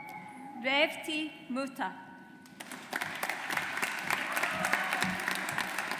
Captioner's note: audience applauds